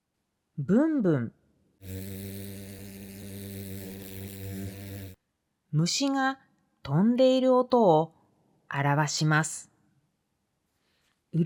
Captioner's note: Bzz